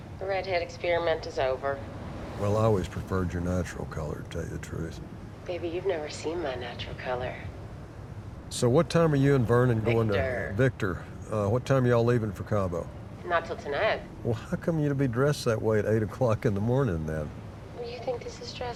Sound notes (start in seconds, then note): 10.5 on phone